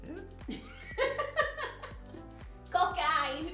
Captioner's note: giggle